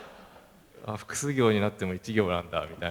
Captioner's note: laugh